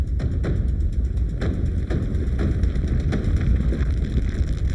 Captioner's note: ground rumbling